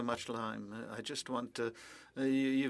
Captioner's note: speaking French